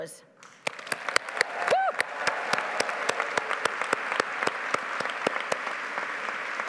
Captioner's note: audience applauding